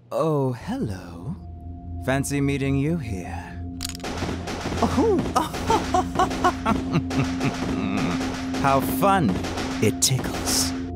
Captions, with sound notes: - Oh, hello. Fancy meeting you here. (guns firing) (Lady Dimitrescu laughing) How fun. It tickles.